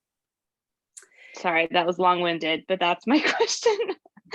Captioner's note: laughter